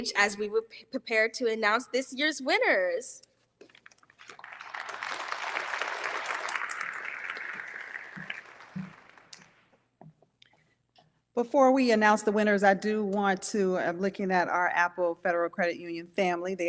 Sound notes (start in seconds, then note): 4.2 audience applauding